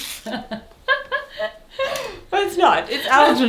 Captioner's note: both laugh